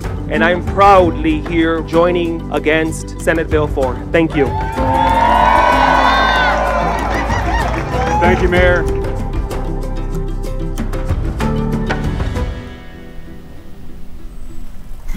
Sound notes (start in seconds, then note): 4.4 cheers and applause; 9.7 dramatic music